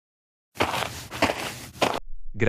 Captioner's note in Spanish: FX - Footsteps - On Multiple Dirt - Walk